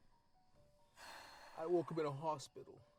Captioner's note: Avery blows out air, frustrated